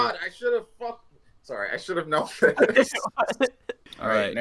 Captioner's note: laughter